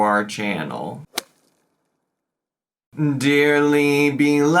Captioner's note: logo thuds